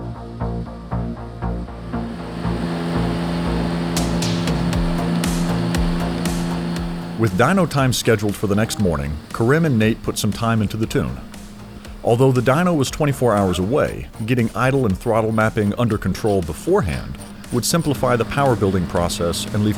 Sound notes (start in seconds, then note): 3.3 engine rumbles